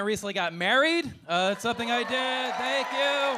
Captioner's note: audience cheering